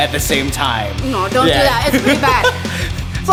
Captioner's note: laughing